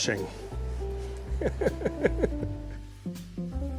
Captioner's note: laughter